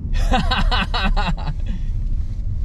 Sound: laughs

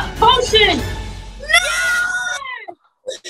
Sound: cheering

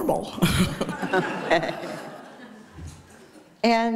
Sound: laughter

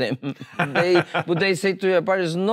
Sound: laughs

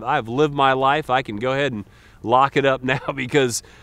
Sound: chuckles

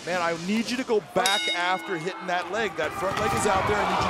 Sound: bell rings

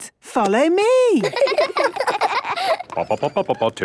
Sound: children laughing; sing-song voice

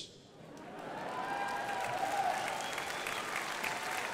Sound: crowd applauding

